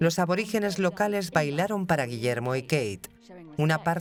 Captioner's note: speaking in foreign language